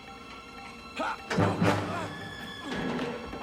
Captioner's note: grunts